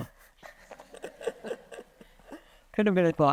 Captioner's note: attendees laughing